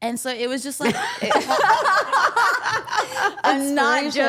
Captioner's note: everyone laughs